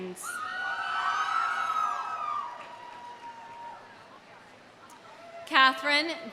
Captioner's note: audience cheering; audience applauding